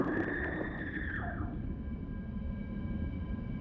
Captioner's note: muffled female scream; wind through pipes